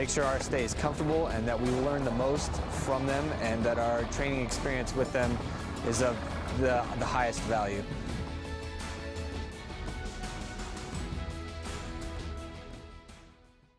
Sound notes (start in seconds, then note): 3.1 helicopter whirring; 8.1 soft inspirational music